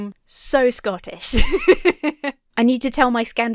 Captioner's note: laughs